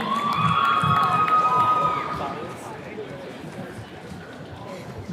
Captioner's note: attendees cheering